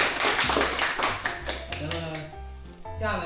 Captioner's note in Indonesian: tepuk tangan